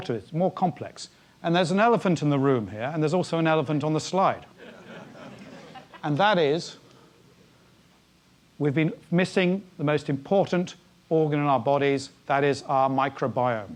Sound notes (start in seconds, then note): 4.6 laugh